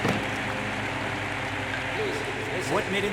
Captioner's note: hand slams